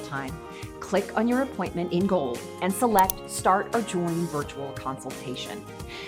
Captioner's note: mouse Click